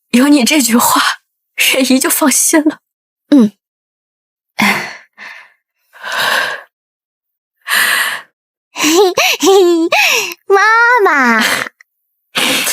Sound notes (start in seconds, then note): 8.9 giggles